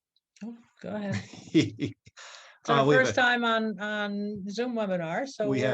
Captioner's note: laughs